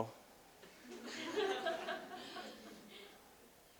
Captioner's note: audience: Laughter